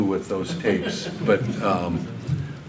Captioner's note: audience laughter